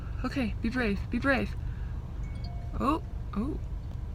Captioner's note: phone alert